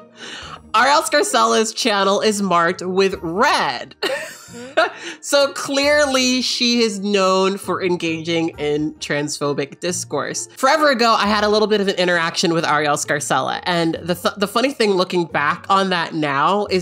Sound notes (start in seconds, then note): 4.0 laughing